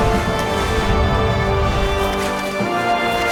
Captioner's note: low whooshing; dramatic music